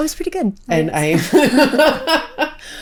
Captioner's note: both laughing